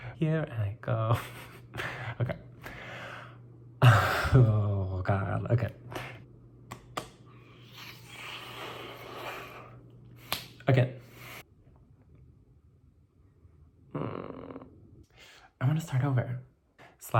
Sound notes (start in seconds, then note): 0.1 singing; 13.9 groans